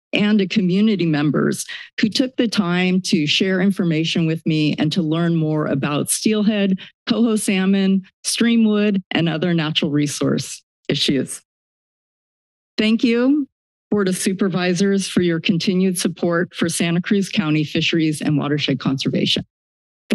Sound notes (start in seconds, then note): 11.3 silence